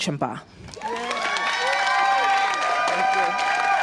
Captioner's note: applause